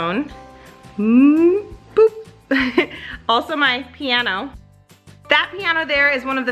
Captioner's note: laughs